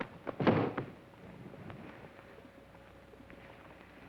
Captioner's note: foot thuds